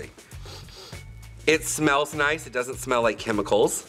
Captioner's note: sniffs